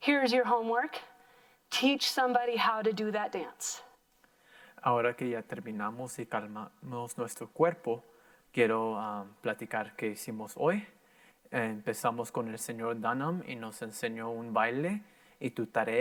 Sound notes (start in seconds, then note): 4.9 in foreign language